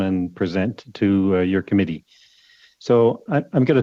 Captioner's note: speaking FRENCH